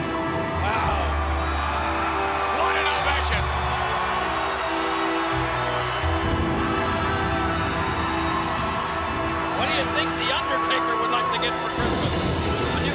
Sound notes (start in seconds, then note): 3.6 crowd cheering; 3.6 eerie music